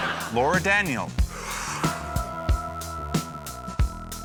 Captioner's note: laughter; exhales deeply